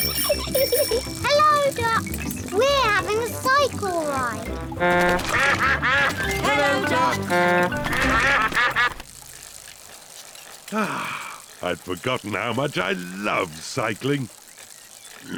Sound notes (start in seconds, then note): 0.0 giggles; 4.1 all quack; 4.2 toots horn; 8.2 all quack; 10.7 sighs happily